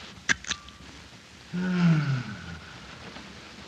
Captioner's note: sigh